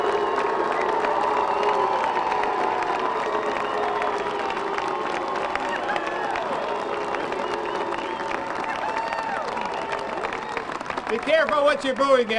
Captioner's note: applause